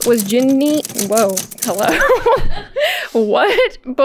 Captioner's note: laughing